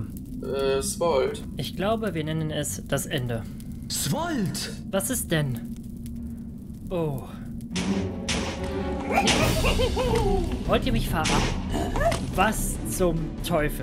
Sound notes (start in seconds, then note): 7.3 ominous music and explosions; 11.1 explosion